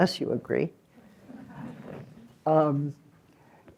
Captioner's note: laughter